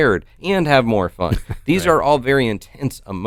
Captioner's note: chuckles